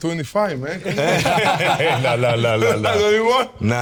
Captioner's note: all laughing